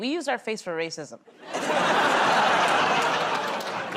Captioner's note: laughter